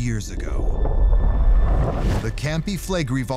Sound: deep rumble

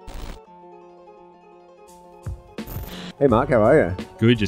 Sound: static; melodic music

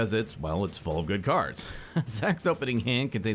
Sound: laughs

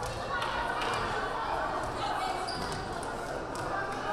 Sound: crowd calling out

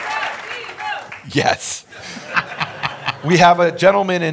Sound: laughs

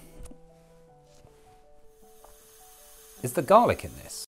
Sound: hissing noise

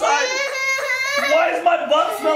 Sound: crying

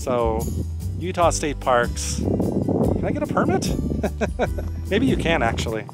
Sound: laughter

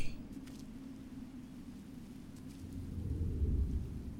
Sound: none

